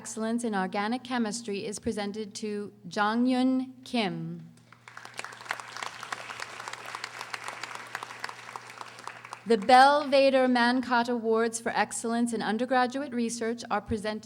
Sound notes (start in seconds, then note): 4.7 audience applauding